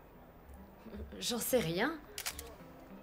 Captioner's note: camera clicks